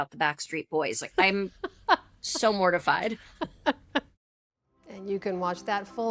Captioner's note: laughter